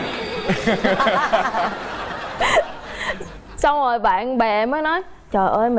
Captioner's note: laughing